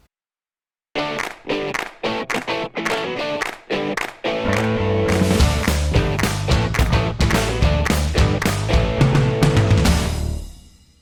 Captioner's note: claps